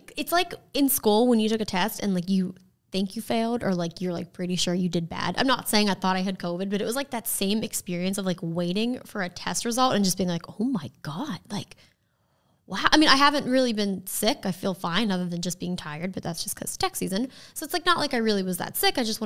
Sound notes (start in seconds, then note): none